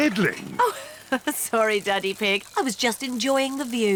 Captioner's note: giggles; all laugh